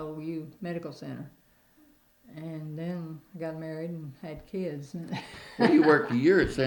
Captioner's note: laughter